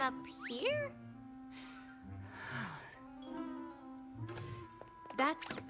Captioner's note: sighs